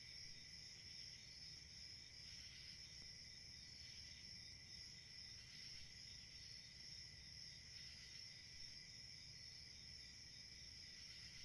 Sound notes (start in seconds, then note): none